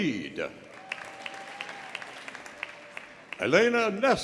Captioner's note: audience applauding; audience cheering